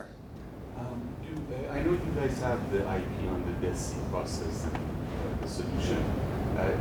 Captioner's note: speaking faintly